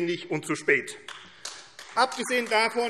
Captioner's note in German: Beifall AfD